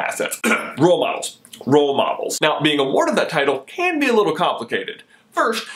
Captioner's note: cough